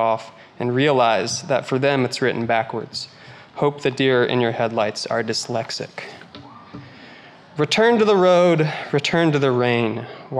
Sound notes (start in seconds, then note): none